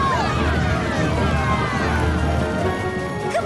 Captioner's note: pounding hooves